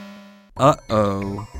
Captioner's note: buzzer sound